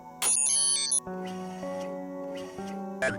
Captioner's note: whirring